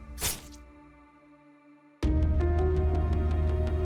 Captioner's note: sword thudding; mellow orchestral music